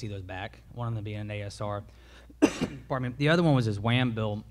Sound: coughs

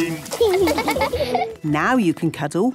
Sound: laughing

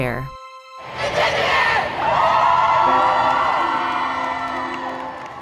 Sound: group chanting and shouting

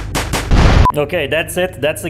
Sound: kaboom

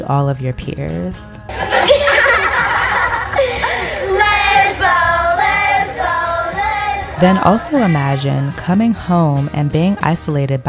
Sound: laughter and taunting

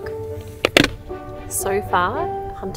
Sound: rug knocking Tupperware

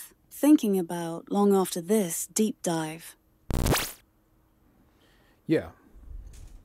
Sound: electronic sound effect

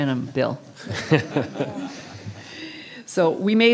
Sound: councilors laugh

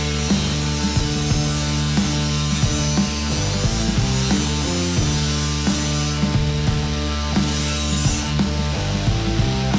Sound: drilling sound

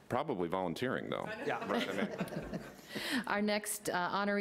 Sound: laughter

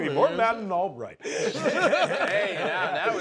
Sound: laughter

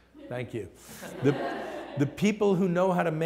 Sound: laughter

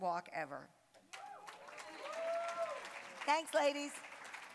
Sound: cheering, applause

